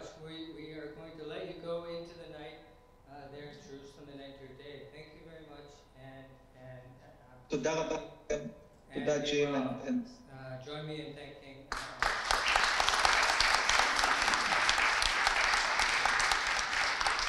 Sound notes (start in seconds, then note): 7.5 speaking foreign language; 11.7 audience applauds